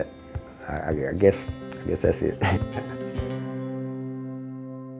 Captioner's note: laughs